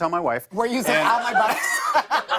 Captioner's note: laughter